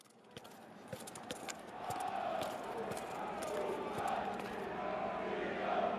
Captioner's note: distant crowd chanting